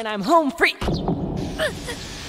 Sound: heartbeat

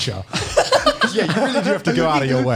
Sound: laughs

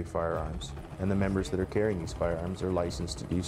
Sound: dramatic music; voiceover

